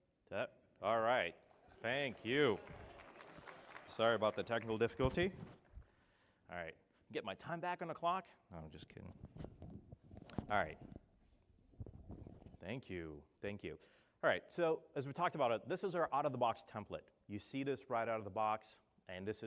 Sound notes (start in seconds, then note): 1.4 applause